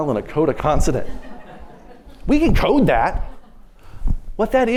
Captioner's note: laughter